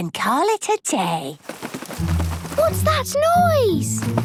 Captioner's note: scuffling